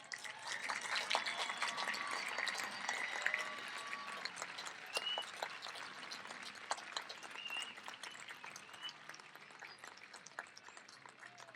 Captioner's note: applause